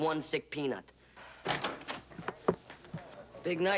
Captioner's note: door opens